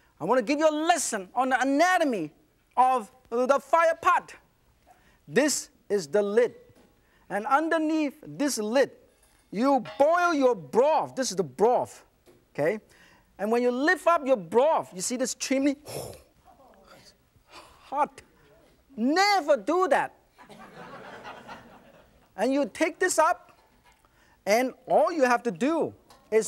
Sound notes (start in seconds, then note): 15.8 winces and gasps; 20.4 audience laughs